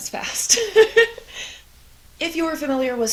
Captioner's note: laughs